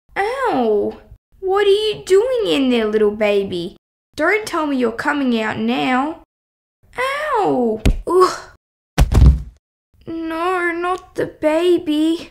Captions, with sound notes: Owww! What are you doing in there little baby? Don’t tell me you’re coming out now? Owww! (Bump!) Oooooh! (Thud!) No, not the baby...